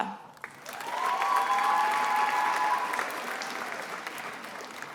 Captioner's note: attendees applauding